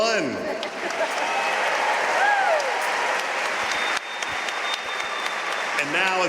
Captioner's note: audience cheering and applauding